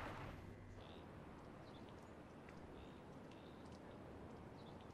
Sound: birds chirping

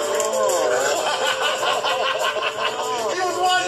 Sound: laughter

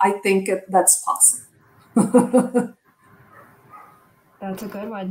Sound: laughter

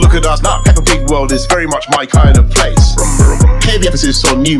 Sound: vroom vroom

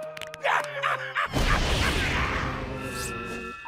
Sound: laughing

